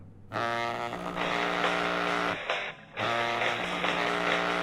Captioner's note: cell phone ringing